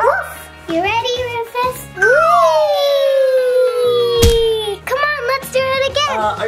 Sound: playful music; puppy barking; doll sliding

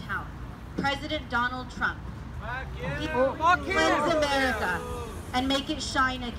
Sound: boos

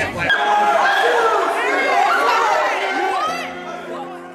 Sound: exclamation and Laughing

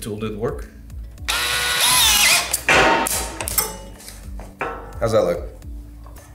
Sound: drill screeching

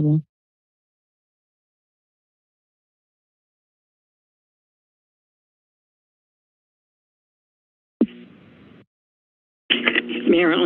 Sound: silence

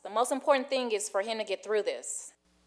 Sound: none

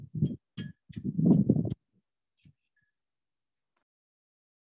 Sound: wind blowing

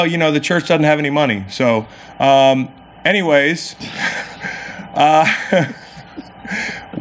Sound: laughs

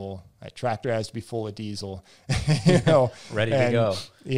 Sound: laughs

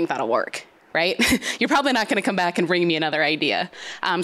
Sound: chuckles

